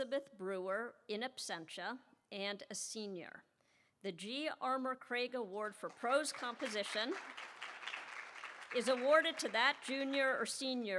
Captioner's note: applause